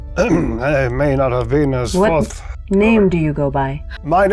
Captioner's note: clears throat